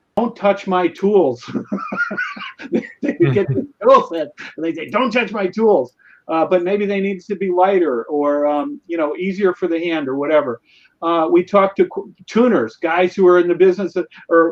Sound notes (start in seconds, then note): 1.4 laughs